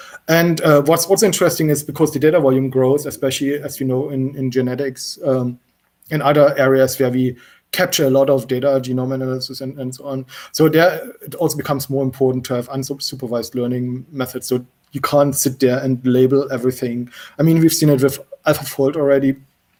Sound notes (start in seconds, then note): none